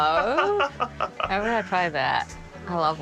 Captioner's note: laughs